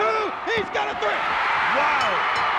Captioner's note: audience cheers; bell rings